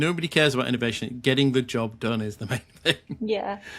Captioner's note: chuckling